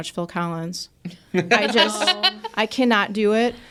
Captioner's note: participants laughing